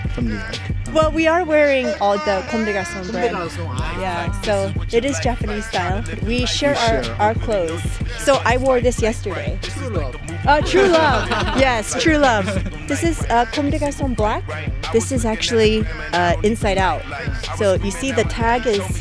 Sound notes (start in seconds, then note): 10.4 laughs